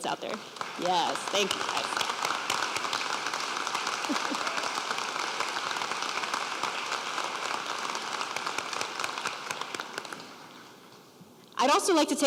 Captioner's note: applause